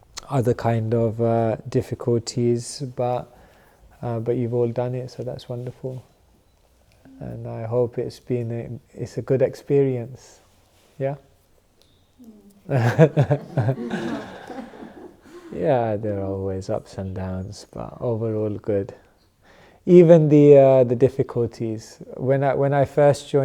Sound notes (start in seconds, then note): 12.7 laughter